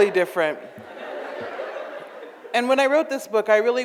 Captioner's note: audience laughs